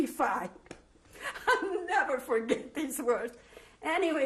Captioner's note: laughs